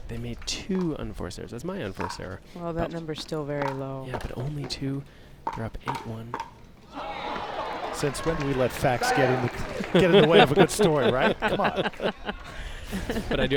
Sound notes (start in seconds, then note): 6.8 crowd applauds; 11.9 laugh